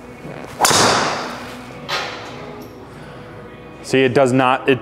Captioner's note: club whumps